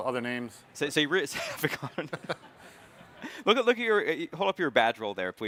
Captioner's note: both chuckling